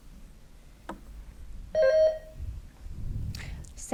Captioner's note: bell dings